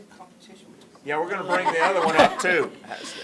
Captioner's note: laughter